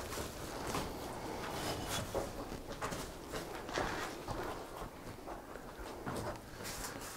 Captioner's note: footsteps and wind in the background